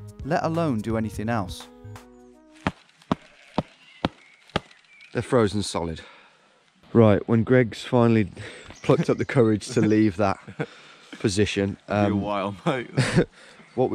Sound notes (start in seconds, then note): 2.8 thumping